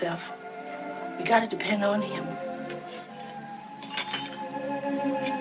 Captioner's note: object Clinking